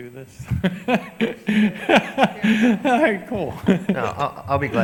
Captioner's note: laughs